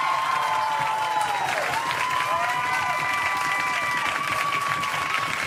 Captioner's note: audience cheering and applauding